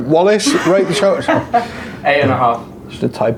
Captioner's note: laughs